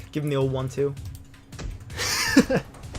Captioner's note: thud